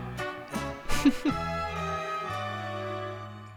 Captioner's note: laughs to self